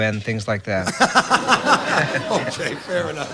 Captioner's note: laughs